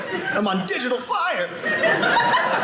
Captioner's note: audience laughing